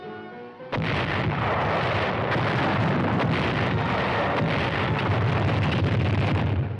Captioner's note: artillery booming